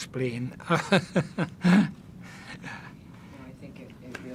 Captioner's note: laughing